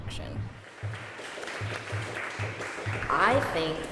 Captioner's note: applause